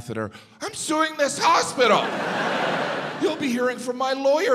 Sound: audience laughs

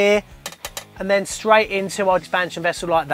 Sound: taps metal tank

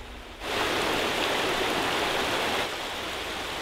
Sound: river running

